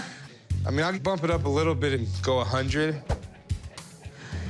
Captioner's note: laughter